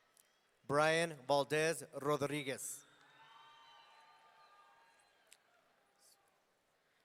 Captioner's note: audience cheering